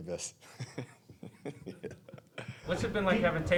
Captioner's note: chuckling